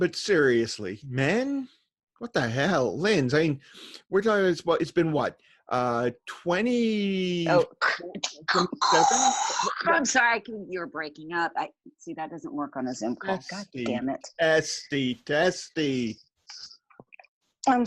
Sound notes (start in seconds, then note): 7.9 imitates static